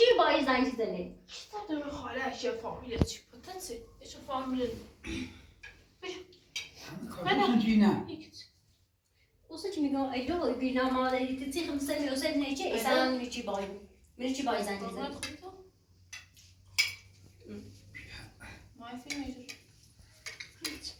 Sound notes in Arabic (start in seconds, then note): 5.0 تنحنُح